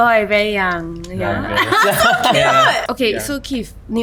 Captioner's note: continuous chatter